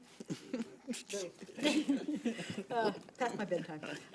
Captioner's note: group laughs